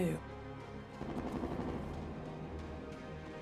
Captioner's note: distant gun fires rapidly